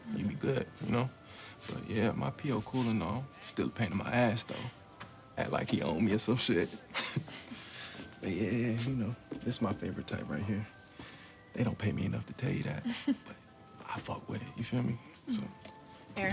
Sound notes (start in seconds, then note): 6.9 chuckles; 12.8 chuckles